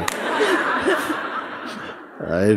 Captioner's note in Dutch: gelach